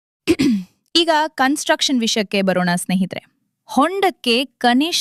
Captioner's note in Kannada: ಗಂಟಲು ಸರಿಮಾಡಿಕೊಳ್ಳುವಿಕೆ